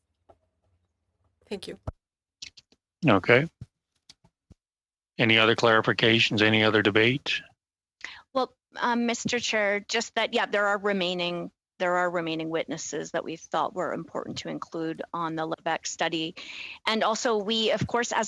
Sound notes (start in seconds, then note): 2.9 speaking French